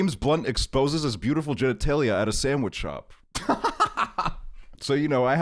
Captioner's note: laughs